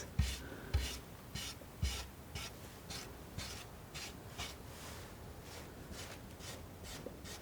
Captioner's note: tapping